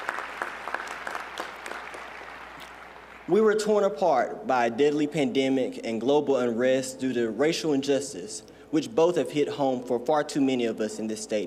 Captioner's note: applause